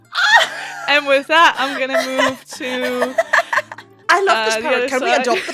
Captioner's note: laughs; laughter